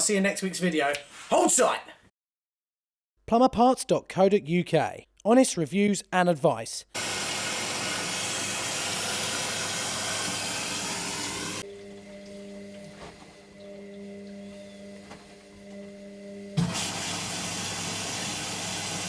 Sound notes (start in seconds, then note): 7.0 washing machine whooshes; 11.9 machine hums